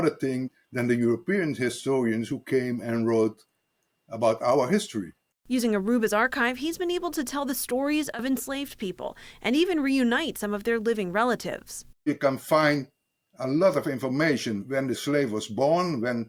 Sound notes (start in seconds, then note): 5.7 voice-over